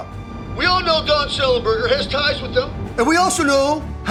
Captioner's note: radio